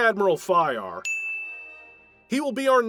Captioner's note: ding